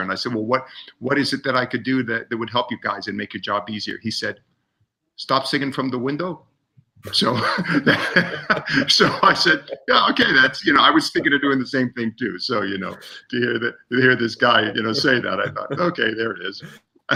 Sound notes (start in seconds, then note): 7.0 laughs